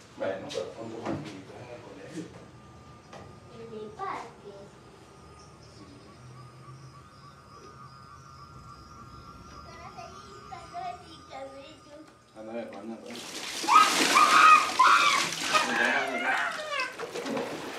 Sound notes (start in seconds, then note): 13.0 water splashing; 13.6 girl shouts